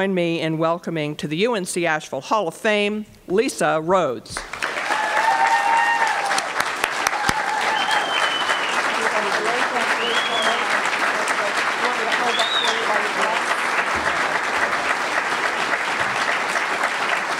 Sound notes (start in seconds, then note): 4.3 applause